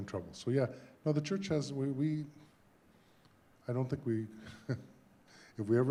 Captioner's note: laughs